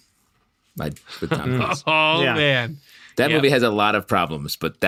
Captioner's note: laughter